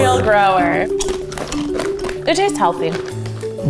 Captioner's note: crunching